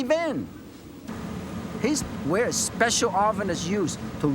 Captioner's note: sizzling sound